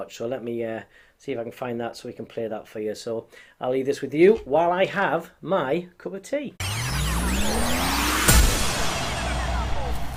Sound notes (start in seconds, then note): 6.6 lasers firing